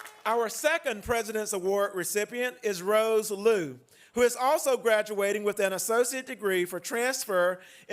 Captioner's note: applause